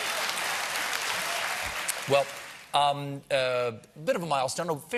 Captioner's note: audience reacts